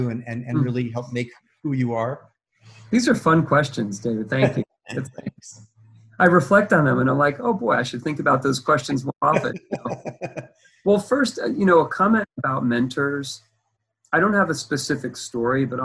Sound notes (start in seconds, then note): 4.4 both laughing; 8.9 laughs